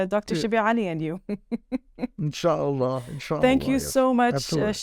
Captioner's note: speaking Arabic